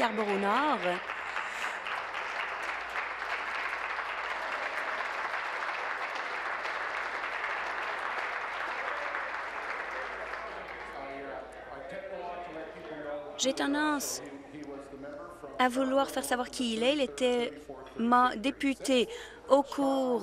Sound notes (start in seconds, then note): 3.2 applause